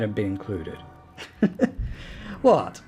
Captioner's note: little chuckle